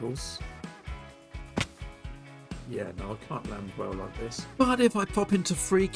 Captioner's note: splat